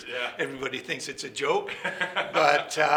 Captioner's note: laughing